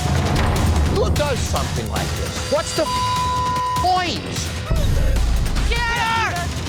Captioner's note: beep